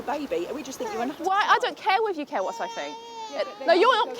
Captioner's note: baby cries